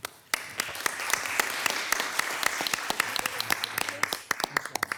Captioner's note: audience applauding